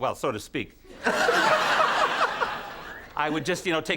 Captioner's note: Conan and the audience laugh